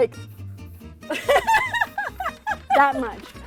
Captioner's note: laughing